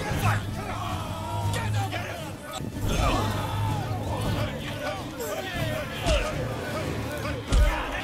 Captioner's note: cheering continues